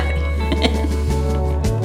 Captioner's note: laughter